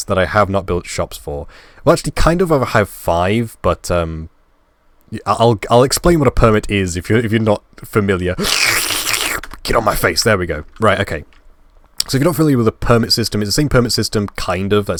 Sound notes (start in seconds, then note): 8.2 licking noises